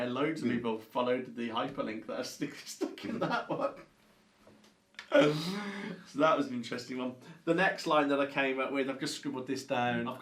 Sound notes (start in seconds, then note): 3.1 both laugh